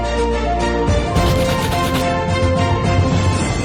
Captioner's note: pen scratching; uplifting music